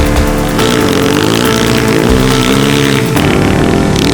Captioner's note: engine revving